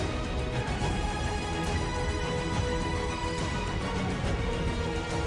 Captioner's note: sword whooshing